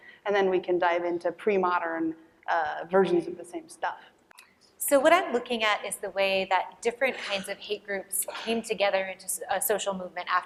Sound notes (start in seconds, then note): none